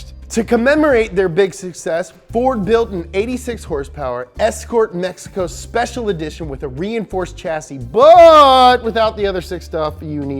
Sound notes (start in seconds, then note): none